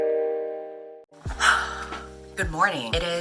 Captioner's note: 𝘴𝘪𝘨𝘩